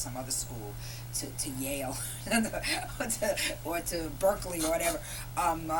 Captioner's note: laughter